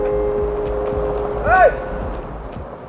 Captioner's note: hollering